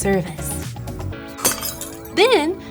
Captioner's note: glass shatters